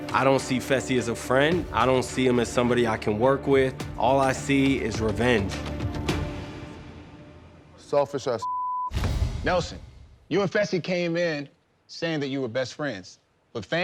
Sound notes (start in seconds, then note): 8.4 beep